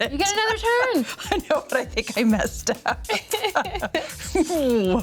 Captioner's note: laughs